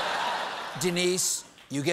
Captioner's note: laughter